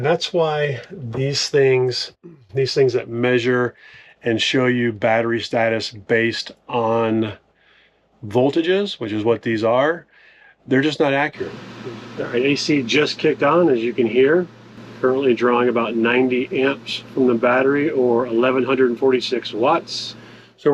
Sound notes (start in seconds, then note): 11.9 air whirs